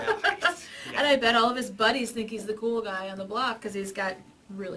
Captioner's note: laughs